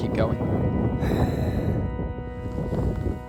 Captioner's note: sighs